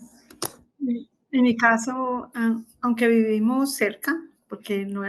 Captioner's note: speaking spanish